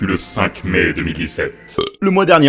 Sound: burp

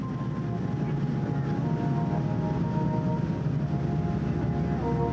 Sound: airplane ambient noise

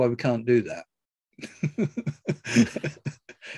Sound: laughs

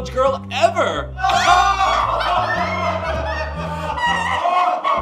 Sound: laughing

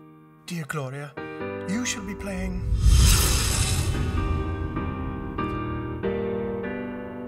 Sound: dramatic whooshing

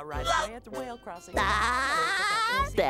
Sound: laughing

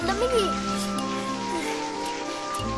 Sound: exhales

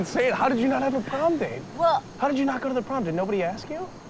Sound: laughs

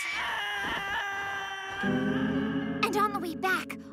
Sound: screaming; screams echo

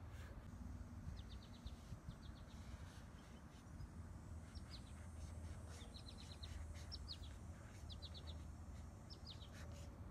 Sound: birds chirping

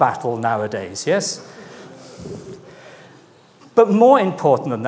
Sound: audience laughing

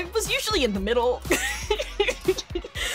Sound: laughing

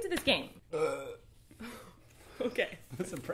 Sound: burps

